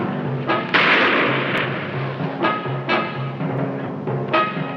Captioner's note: gun shooting